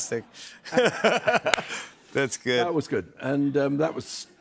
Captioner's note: laughs